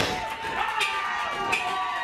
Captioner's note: crowd cheering